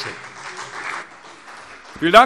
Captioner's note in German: Beifall CDU und vereinzelt BÜNDNIS 90/DIE GRÜNEN